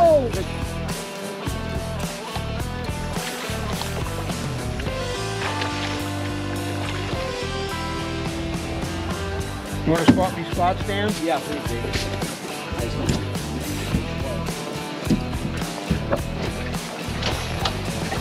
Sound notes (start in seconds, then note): 8.2 fish splashing